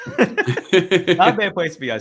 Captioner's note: both laugh